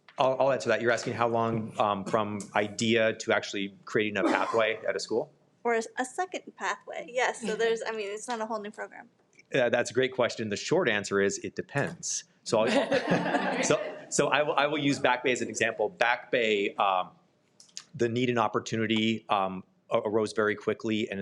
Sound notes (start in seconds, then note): 12.6 participants laughing